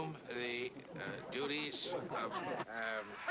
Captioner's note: laughter